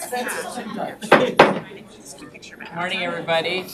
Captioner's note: gavel taps